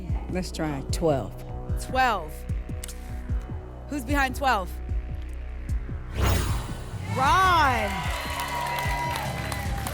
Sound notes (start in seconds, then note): 6.0 whoosh; 7.0 applause and cheering